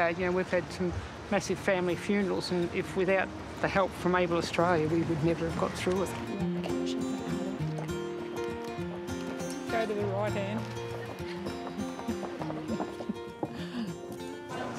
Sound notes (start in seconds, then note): 12.5 chuckling